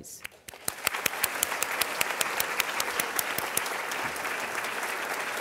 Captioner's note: applause